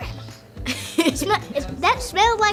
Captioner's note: laughs